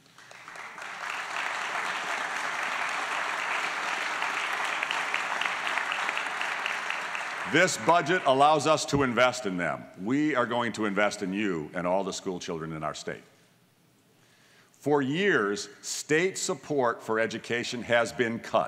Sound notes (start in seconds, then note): 0.0 applause